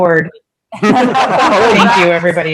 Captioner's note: group laughing